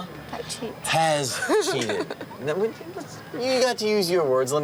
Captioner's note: laughs